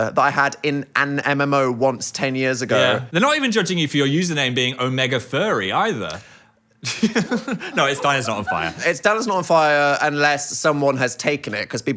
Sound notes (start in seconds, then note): 6.8 Phil laughing